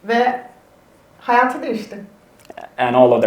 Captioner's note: speaks in Turkish